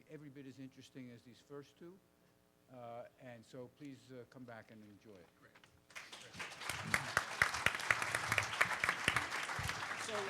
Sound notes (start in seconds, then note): 5.9 participants applaud